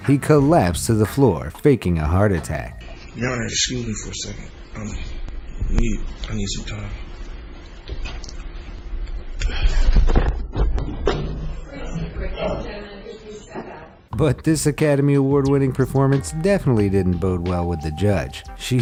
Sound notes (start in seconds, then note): 10.1 people chattering